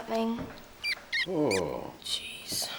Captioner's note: mouse squeaks